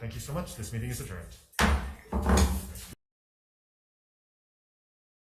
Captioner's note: gavel thuds